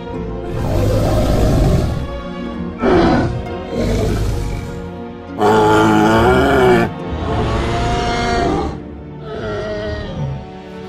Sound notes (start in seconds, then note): 0.4 triceratops huffing and growling